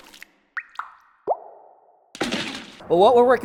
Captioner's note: splashing; dripping